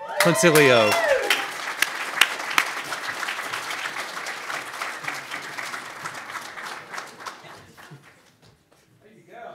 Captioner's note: audience claps and cheers loudly